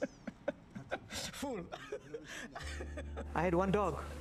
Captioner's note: laughs